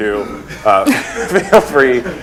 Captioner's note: laughter